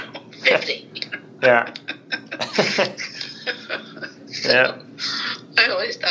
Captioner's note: both laugh